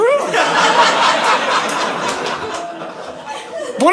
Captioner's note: audience laughing